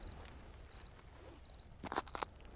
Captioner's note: footsteps